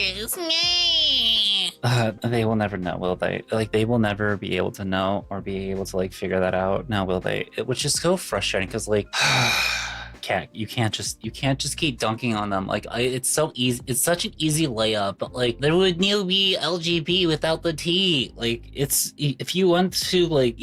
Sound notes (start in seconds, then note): 9.1 sighs